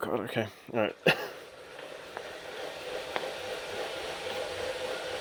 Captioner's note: machine whirring